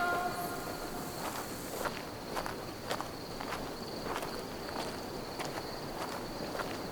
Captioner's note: gravel crunching; crickets chirping